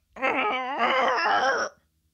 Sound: Leia groans

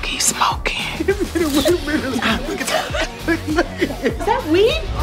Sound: giggling

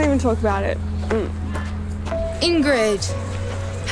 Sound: groans

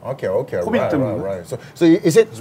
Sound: in Korean

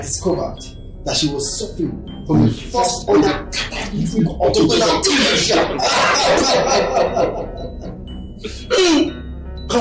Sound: laughs

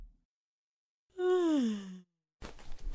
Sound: yawn

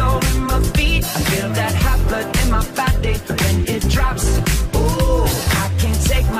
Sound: oooh!

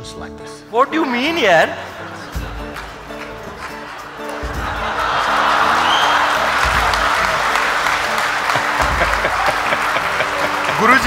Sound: laughter/Applause; Sadhguru laughs

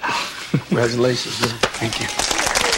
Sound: chuckles

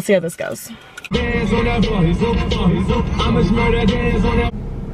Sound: radio plays

